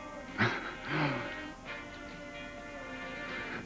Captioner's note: chuckles